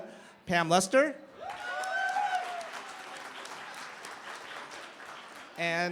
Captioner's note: cheering, applause